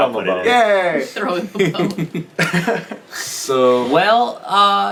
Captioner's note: laughs